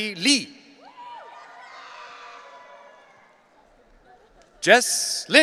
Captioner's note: audience cheering